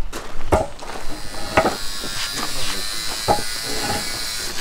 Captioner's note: saw noise